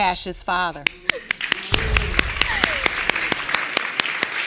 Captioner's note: applause